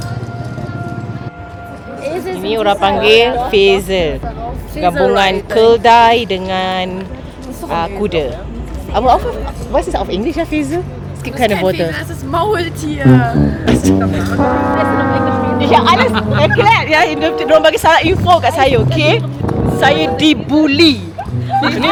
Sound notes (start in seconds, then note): 13.7 speaking German; 15.7 laugh